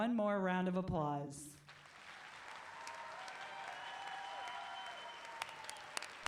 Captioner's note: applause